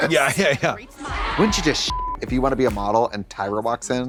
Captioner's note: beep